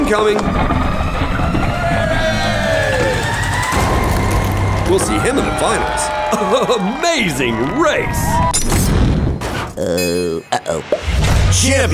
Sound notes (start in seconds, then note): 0.8 cheering